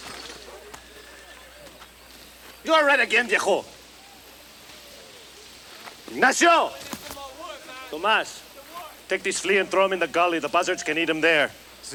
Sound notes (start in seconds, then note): 3.3 speaks Spanish